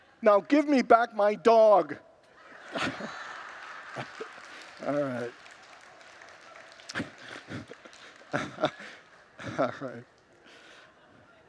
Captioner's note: congregants laugh